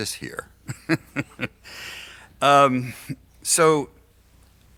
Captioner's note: laughs